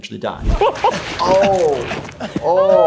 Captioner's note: men laughing